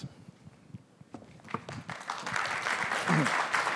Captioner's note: applause